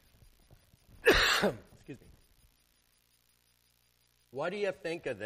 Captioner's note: coughs